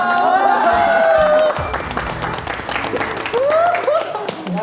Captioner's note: A standing ovation breaks out